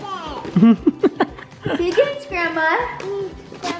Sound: chuckles

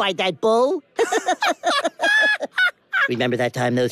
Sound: more laughing. also wheeze tho

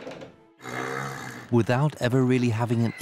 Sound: horse grunts

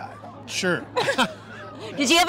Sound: laughs

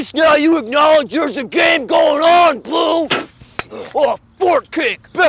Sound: spits

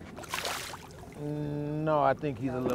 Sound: fish splashing

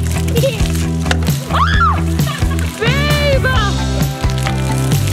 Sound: child whimpers; child laughs; mom screams; laughing; upbeat music; water splashing

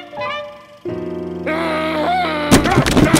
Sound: groans; grumbles

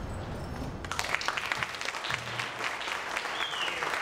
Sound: applauding

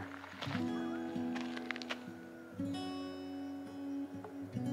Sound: coyote howling

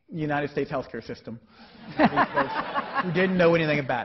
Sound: laughing

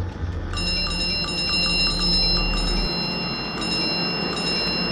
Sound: continuous ringing

